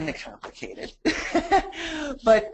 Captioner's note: laughs